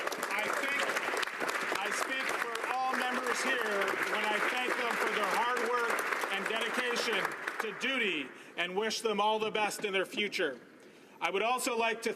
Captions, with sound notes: JANUARY AFTER 30 YEARS OF SERVICE. [ Applause ] I SPEAK FOR ALL MEMBERS HERE WHEN I THANK THEM FOR THEIR HARD WORK AND DEDICATION TO DUTY AND